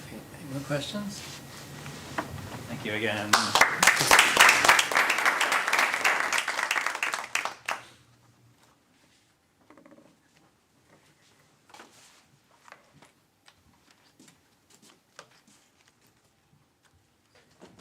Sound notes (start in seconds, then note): 3.2 applause